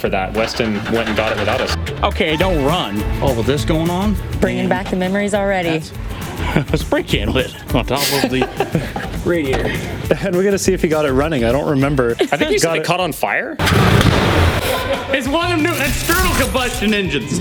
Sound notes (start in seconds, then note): 13.6 truck engine hiccups